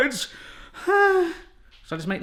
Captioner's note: gasps